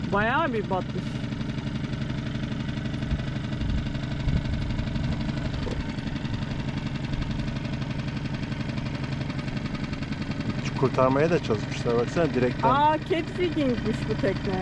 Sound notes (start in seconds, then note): 1.6 engine sound